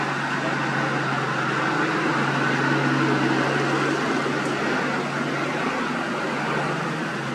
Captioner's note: engine Rumble